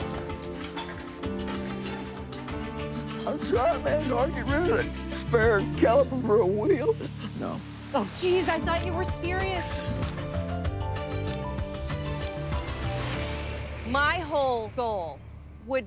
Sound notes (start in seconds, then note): 6.7 sobs